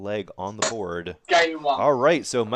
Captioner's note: dart ticks